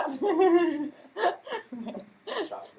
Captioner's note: laughter